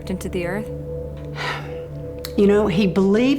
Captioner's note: Helen sighs